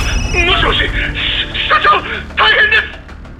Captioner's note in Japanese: 笑い